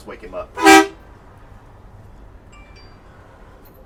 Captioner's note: horn